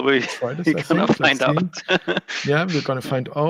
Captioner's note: laughing